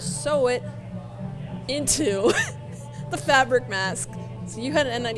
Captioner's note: laughs